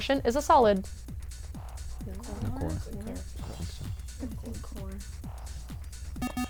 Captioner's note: wispering; bell